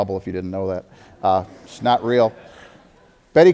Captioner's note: audience laughter